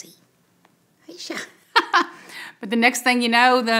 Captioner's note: laughs